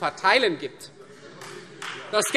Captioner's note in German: Vereinzelter Beifall Freie Demokraten